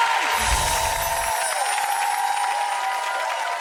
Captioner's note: applause